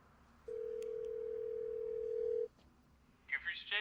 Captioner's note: phone ringing